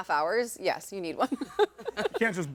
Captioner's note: laughing